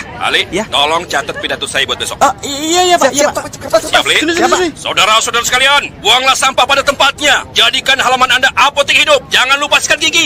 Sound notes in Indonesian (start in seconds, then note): none